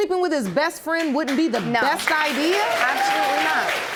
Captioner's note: audience applauds